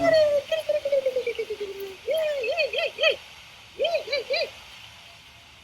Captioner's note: mimicking dog chattering